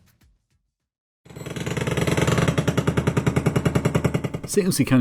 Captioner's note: engine rattling